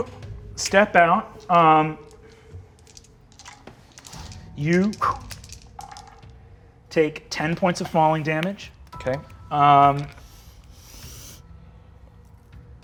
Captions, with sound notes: - You step out. You (dice rattling) take 10 points of falling damage. - Okay.